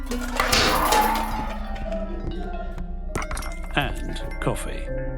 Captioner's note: pans clattering